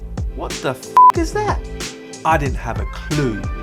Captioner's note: beep